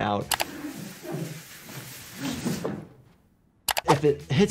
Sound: mouse clicks; man sliding softly; mouse clicks

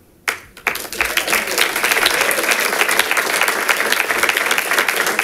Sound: congregation claps

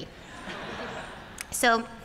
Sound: laughter

